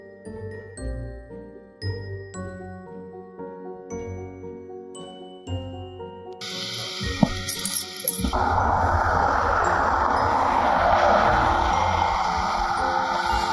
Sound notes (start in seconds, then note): 0.1 mysterious music continues; 7.2 keys jingling; 8.2 traffic humming